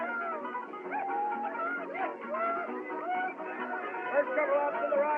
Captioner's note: shouting, Whooping